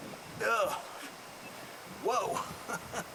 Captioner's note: groans; chuckles